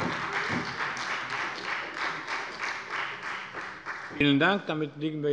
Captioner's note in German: Beifall bei der SPD